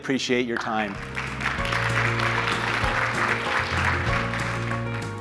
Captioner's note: applause